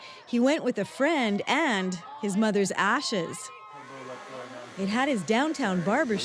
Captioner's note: cheers and applause